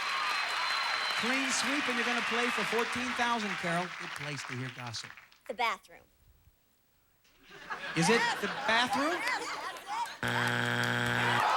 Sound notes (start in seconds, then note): 0.0 audience applauding; 7.4 audience laughing